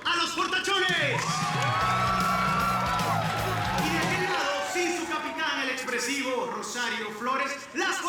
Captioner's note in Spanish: Gritos y exclamaciones